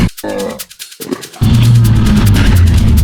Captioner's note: animal vocalizations